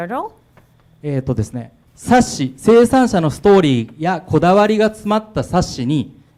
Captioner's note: speaking foreign language